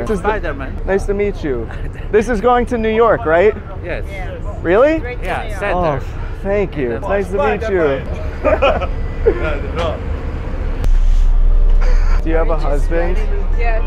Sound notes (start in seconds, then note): 7.1 people speaking indistinct; 7.4 people laughing; 11.0 upbeat chill music; 11.8 laughs; 11.8 people chattering